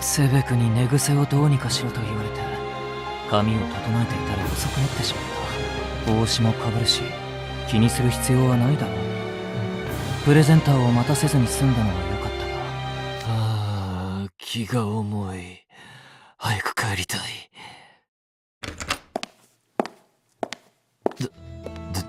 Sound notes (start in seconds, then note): 15.7 sigh~~~~~